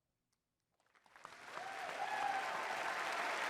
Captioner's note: cheering